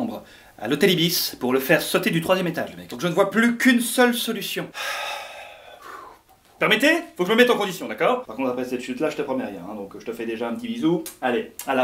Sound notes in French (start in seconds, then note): 4.7 soupirs